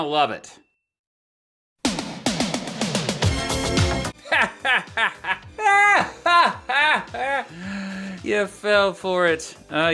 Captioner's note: laughs